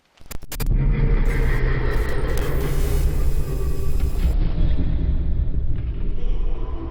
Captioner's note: dark brooding music; static hisses